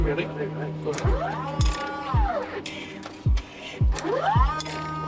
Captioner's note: machine hums